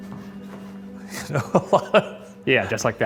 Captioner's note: Shane laughs